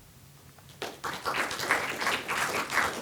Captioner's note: applause